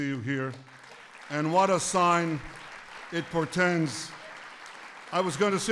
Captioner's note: applause